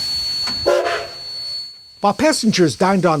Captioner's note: train whistle